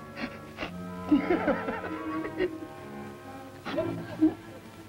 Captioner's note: nervous Iaughter